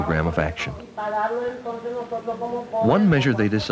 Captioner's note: non-English speech